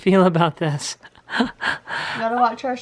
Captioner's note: laughing